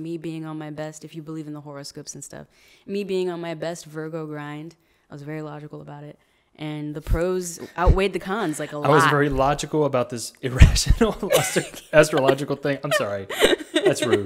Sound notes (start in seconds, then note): 11.1 laughs